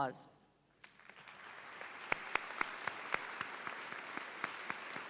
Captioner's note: audience applauds